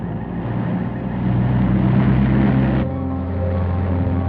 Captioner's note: engine rumbles